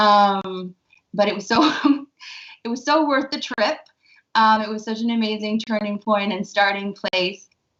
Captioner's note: laughs